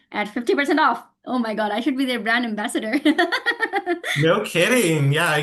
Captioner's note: laughing